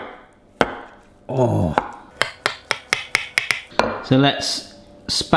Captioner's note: groans